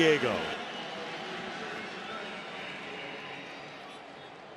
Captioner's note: pa announcement